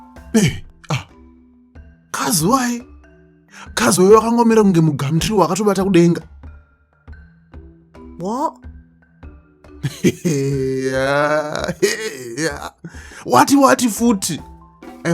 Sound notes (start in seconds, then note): 0.3 shocked grunts; 9.8 disbelieving sounds